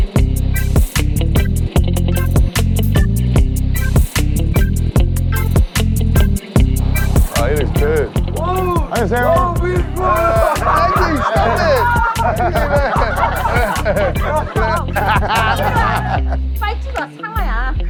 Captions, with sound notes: Oh he looks good. Annyeonghaseyo. *Excited shouting in Korean* *Laughing*